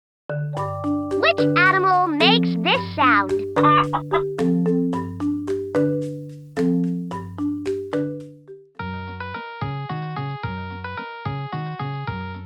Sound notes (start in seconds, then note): 0.0 gentle music; 3.5 clucking